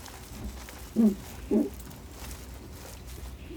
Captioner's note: fox moans